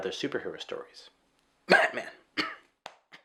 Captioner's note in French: tousse